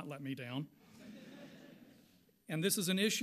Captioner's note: audience laughs